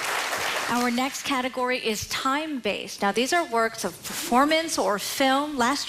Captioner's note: applause